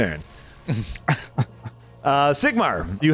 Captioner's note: laughs